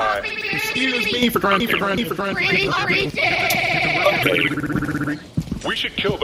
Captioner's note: glitching